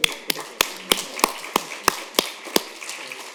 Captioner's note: applause